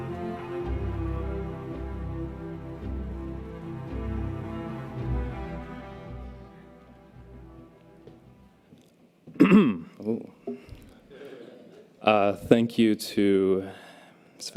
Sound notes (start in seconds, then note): 9.3 clears throat